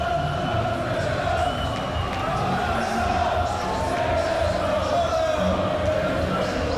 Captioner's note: crowd chanting distantly "Ole, Ole, Ole"